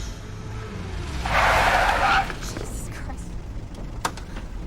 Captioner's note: tires screech